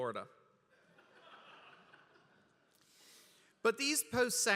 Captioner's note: laughter